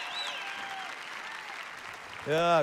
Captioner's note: congregation clapping